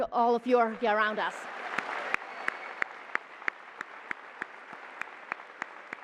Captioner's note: applause